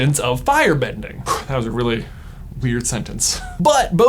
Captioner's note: laughs